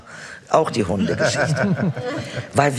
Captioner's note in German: Lachen